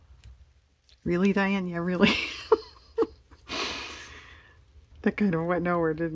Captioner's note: laughs